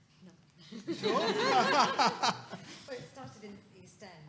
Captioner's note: people laughing